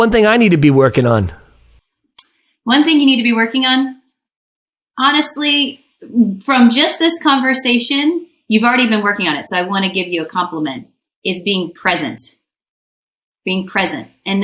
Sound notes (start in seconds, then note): none